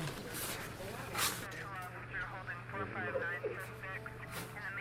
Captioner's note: police radio chatter